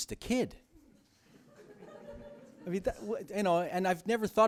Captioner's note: laughter